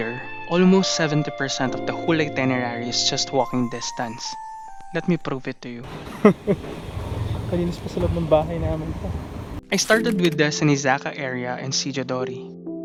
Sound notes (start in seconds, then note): 5.9 laughing